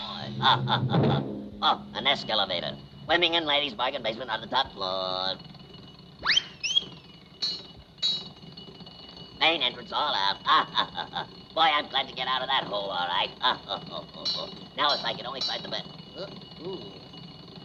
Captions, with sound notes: Oh, boy! (laughing) Oh, an escalavator! Women and ladies bargain basement on the top floor. (lamp clanking) Main entrance, all out. (chuckling) Boy, I'm glad to get outta that hole, all right. (chuckling) Now if I could on find the- Ah, ooh.